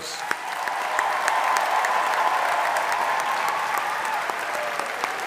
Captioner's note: audience applauding